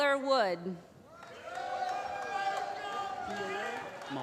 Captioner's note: applause